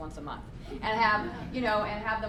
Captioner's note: laughter